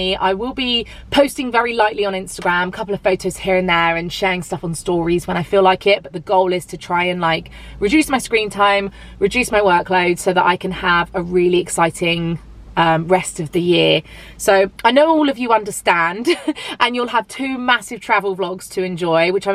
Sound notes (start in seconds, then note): 16.2 chuckles